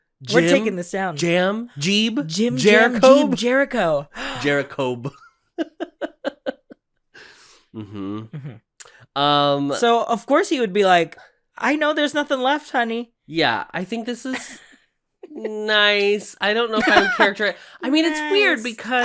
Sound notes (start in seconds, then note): 5.6 chuckles; 16.7 laughs